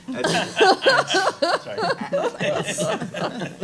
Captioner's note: laughing